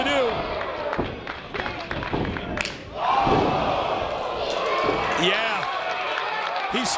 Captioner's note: applause